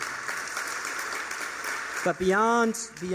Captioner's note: applause